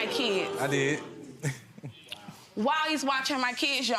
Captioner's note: laughs